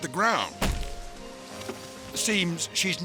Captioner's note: thudding